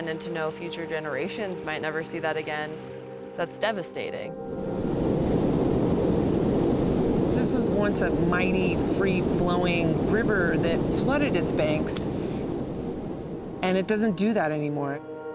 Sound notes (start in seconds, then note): 5.1 water roaring